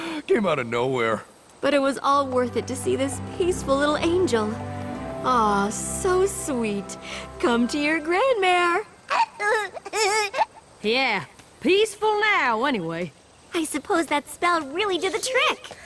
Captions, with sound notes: Came out of nowhere! But it was all worth it to see this peaceful little angel. Aww so sweet, come to your grandmare. [giggle] Yeah. Peaceful now, anyway. I suppose that spell really did the trick.